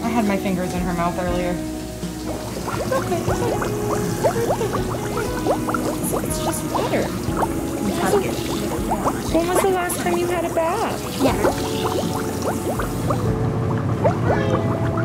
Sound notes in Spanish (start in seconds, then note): 2.3 Agua corriente